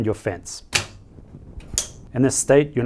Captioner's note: device clicking